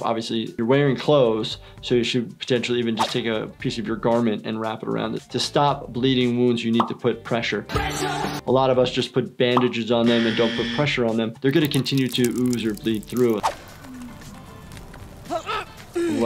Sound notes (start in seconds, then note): 10.1 buzzer blares; 15.2 grunting and moaning